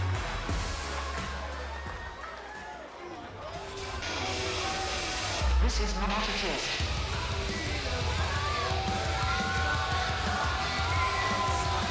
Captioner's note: crowd chatter